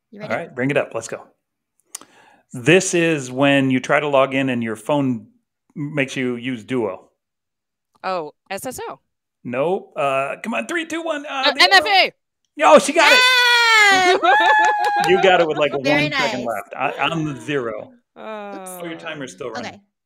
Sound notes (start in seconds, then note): 12.8 cheers and claps; 13.7 laughing